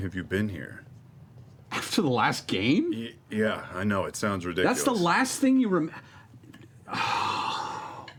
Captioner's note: sighs